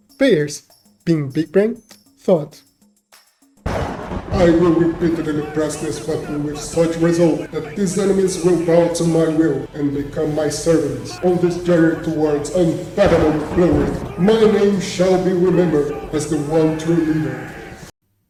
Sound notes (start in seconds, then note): 3.6 thunder roars as a storm begins out of respect; 11.4 more thunders for more respect